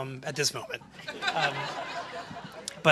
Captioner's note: laughter